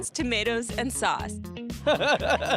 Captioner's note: laughs